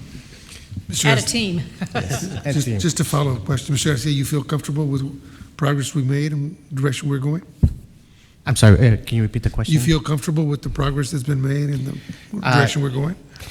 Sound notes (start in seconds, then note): 0.7 all chuckling